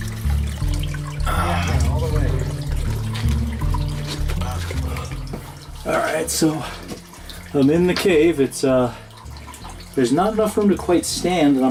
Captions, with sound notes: (sighs) - Yeah, all the way here. - Alright, so I'm in the cave. It's, there's not enough room to quite stand